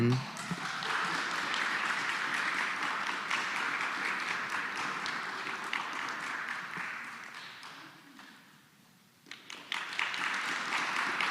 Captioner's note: applause